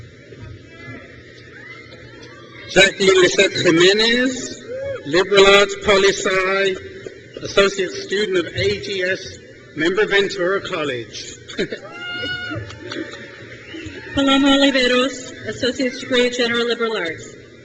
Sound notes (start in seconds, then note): 1.3 crowd cheers; 3.6 mic distorts trustee; 11.5 trustee laughs; 13.6 crowd cheers